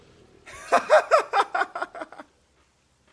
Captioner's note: relief laugh